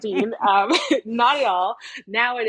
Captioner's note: both laughing